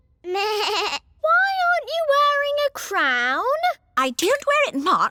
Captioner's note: bleats